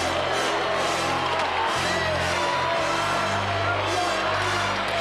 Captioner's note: audience cheering